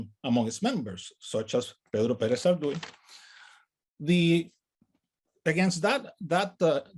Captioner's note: speaks in native language